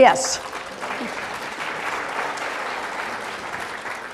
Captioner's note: applause